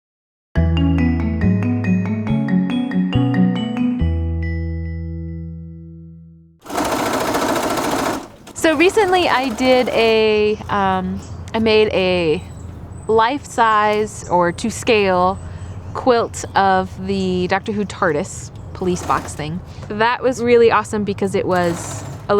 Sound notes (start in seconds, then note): 0.0 upbeat music plays; 6.3 sewing machine sounds